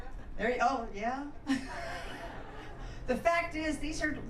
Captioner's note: laughs